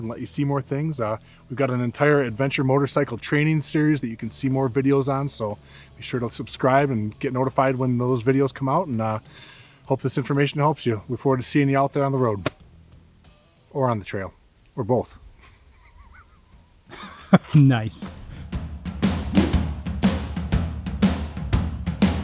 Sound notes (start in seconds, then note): 16.9 laughter